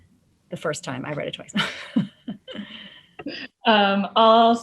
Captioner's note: laughs